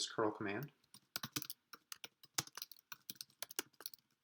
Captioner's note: typing